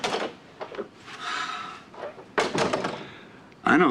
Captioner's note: sighs; door closes